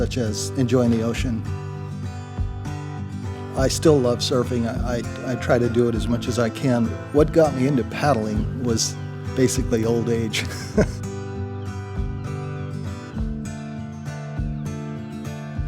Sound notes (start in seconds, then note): 10.3 chuckles